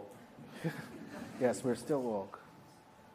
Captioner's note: chuckles